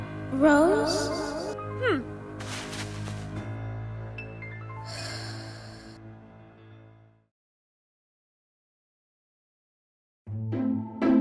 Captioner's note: sigh